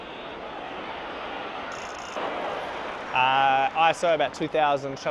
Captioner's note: crowd cheering